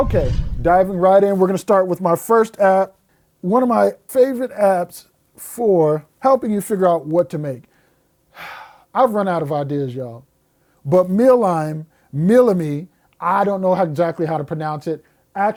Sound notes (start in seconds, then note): 8.4 sighs